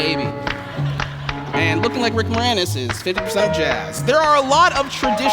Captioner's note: laughter